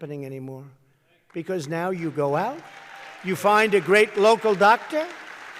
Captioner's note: applause